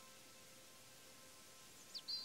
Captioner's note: birds chirp